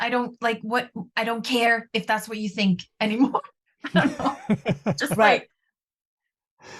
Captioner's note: laughter